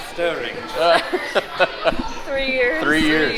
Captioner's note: laughs